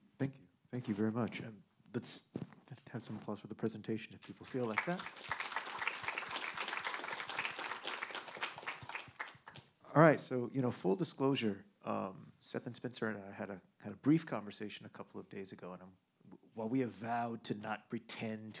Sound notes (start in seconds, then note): 4.4 audience applauding